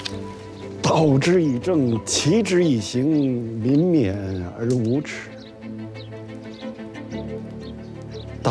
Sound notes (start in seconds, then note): 0.8 speaking Chinese